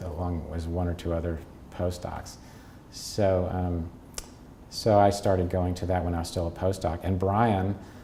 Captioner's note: smacks lips